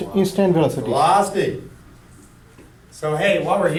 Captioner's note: voiceover